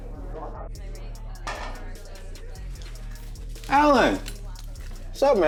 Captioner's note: people chattering